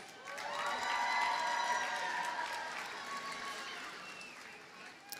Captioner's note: audience cheers and applauds